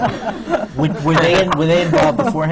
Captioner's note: laughter